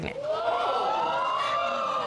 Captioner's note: audience exclaims